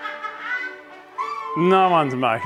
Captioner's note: cackles to the max; squeel